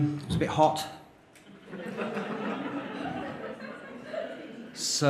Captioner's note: laughter